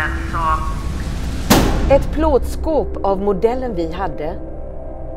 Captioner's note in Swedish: hård skåpbankning